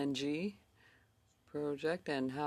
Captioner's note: speaking in French